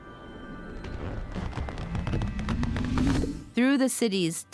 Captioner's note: plant expanding